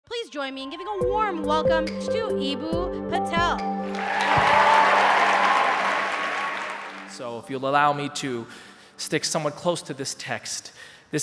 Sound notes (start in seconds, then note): 3.8 applause